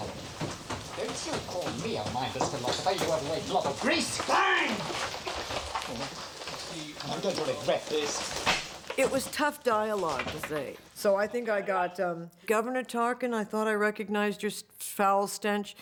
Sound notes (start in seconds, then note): 4.2 man Shouts